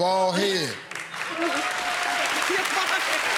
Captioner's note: cheers and applause